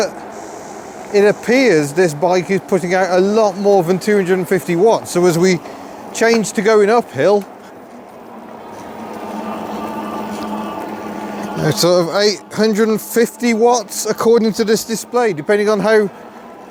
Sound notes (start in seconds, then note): 10.4 pedalling noises